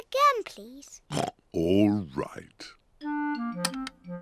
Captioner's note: oinks